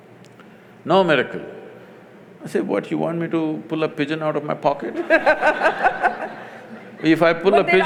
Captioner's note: laughter